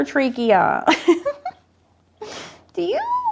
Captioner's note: laughing